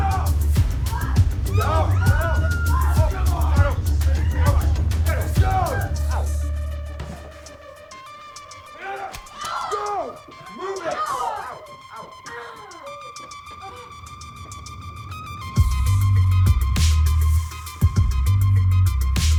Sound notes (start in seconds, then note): 1.0 dramatic music; 1.4 all screaming; 6.6 dramatic music; 11.6 dramatic music; 13.5 dramatic music